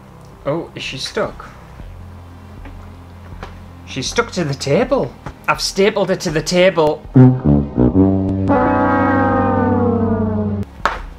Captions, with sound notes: Oh is she stuck? She's stuck to the table! I've stapled her to the table!! *Fail Sound*